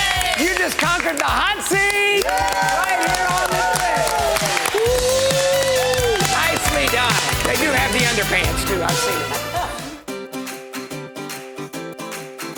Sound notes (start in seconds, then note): 2.2 claps; 4.1 crowd claps and cheers; 10.3 upbeat music